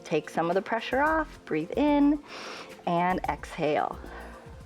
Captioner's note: inhales